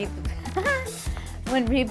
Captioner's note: laughs